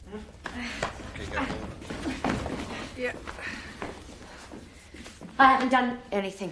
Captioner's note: Alice grunting